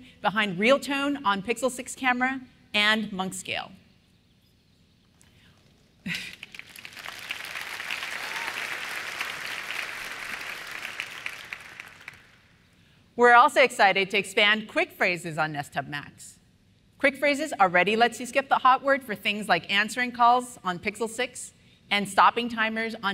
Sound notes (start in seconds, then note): 6.1 applause